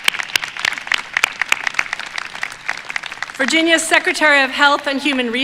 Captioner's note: applause